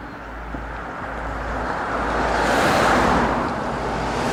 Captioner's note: traffic roaring